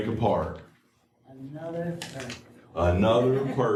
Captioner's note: laughter